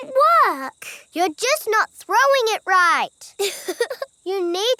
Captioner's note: chuckles